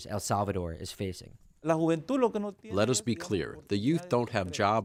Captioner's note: through translator